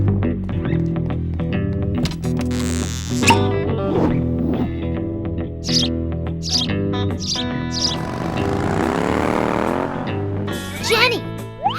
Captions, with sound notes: (BIRD CHIRPS) (MOTORBIKE RUMBLES) JENNY! HAVE YOU ACTUALLY TRAVELLED